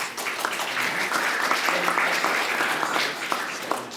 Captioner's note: audience applauding